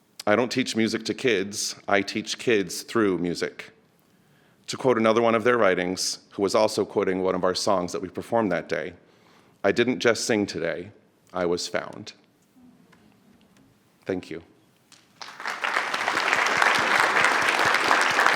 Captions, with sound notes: I don't teach music to kids, I teach kids through music. To quote another one of their writings, who was also quoting one of our songs that we performed that day, "I didn't just sing today, I was found." Thank you. (audience applauds)